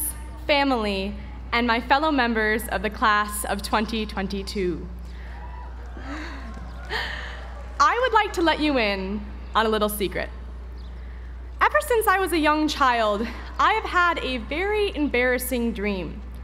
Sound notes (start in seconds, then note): 5.4 applause